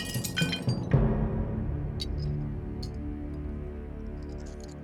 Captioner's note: dish crashes to floor inside house; tense music